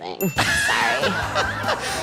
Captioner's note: beep; bell dings; audience laughing